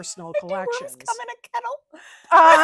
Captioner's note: laughing